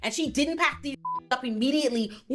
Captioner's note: beep